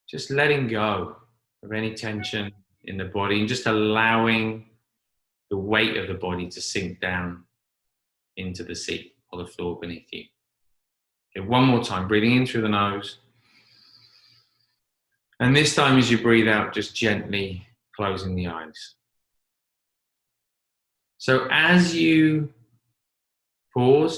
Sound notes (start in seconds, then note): 13.3 inhaling